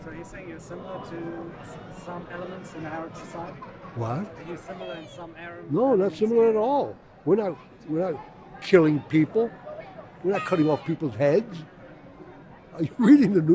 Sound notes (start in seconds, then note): 3.8 voiceover